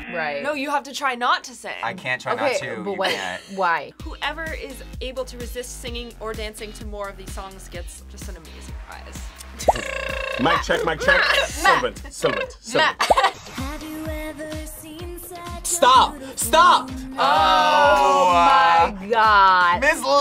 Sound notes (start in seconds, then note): 9.6 trills